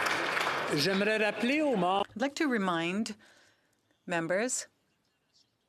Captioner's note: some Applause